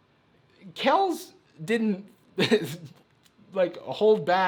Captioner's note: laughs